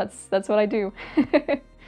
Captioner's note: laughs